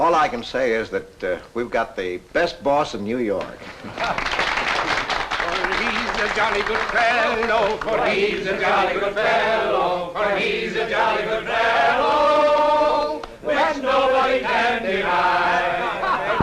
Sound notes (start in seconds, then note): 3.6 applause